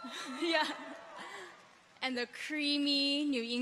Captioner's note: people cheer